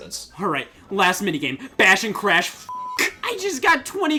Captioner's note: beeps